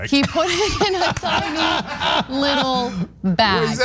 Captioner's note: laugh